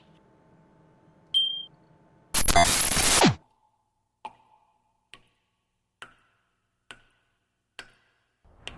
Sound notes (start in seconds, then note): 1.2 a playful tone, then distortion